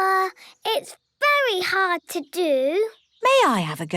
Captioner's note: none